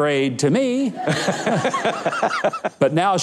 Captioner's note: audience laughs